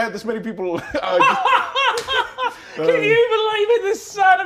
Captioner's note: laughs